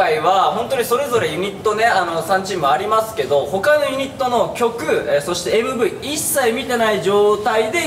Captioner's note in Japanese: none